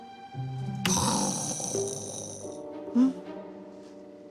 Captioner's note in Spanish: Imita sonido de explosión